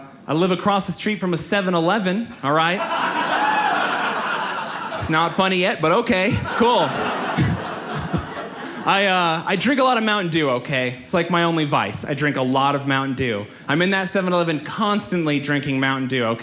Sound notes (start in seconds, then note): 2.7 audience laughs